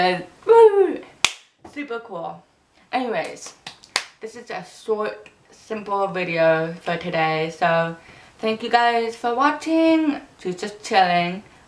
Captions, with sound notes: So Whoo! [clap] Super cool! Anyways, a short, simple video for today so. Thank you guys for watching! She's just chilling.